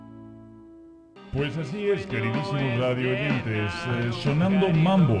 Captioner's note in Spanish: radio